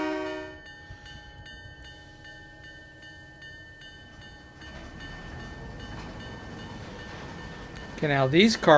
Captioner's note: train whistle